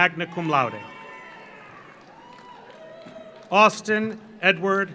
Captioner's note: audience cheers; audience applauds